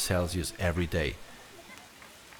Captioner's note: heavy rain